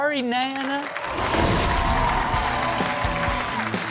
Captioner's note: audience clapping and cheering; upbeat rock music